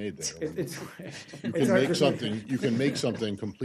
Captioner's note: laughter